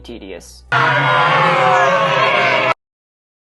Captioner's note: people and a dinosaur jeering, moaning and screaming